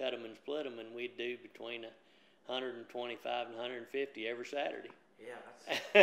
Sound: laughs

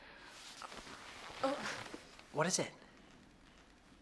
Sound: groans

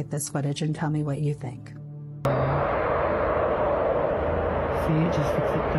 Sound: wind Blowing

